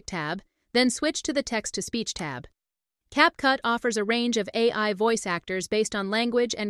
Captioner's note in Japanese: テキスト読み上げ